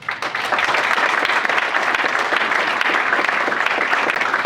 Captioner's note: audience applauds